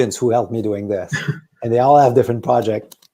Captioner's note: chuckles